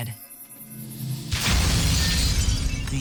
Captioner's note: glass shatters